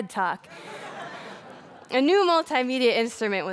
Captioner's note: laughter